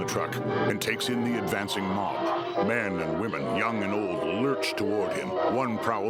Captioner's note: creatures wailing